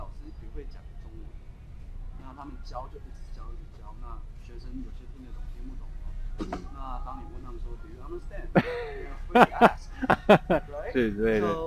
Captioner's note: mandarin